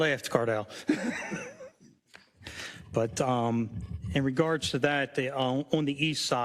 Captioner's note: laugh